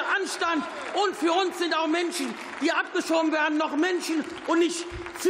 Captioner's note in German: Beifall